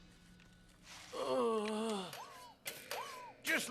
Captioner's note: groans